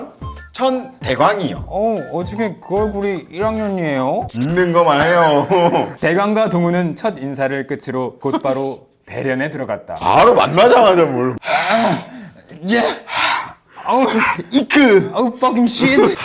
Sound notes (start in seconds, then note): 11.2 rough moaning sound; 13.8 sob